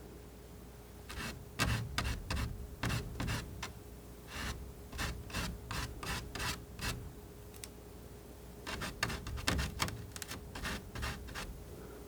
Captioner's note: scratching